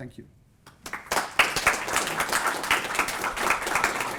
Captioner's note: applause